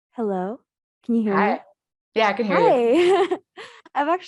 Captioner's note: laughs